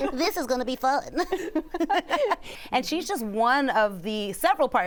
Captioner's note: laughter; normal voice